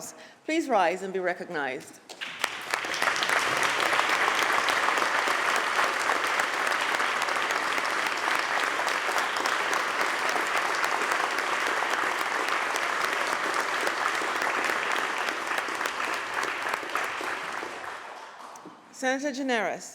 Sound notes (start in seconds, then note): 1.9 applause